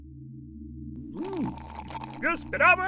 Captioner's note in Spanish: Vuelve a hacer ruido sorbiendo la malteada